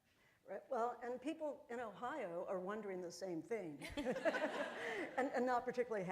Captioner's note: laughter